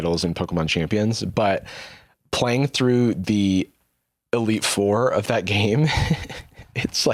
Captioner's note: laughs